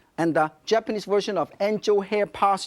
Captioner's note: none